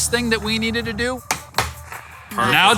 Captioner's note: hand slapping tank